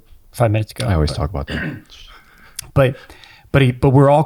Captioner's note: chuckles